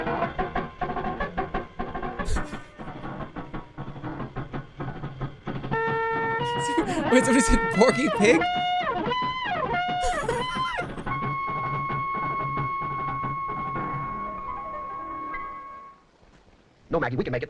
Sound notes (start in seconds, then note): 10.0 laughs